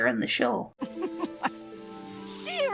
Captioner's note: chuckle